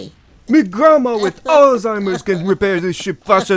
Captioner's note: cries